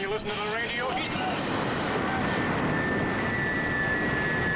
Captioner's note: loud whirring